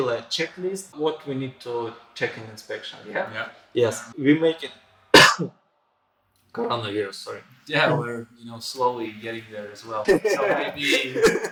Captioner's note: cough